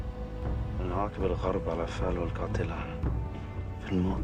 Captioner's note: speaking Arabic